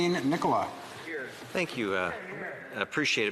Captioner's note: speaking French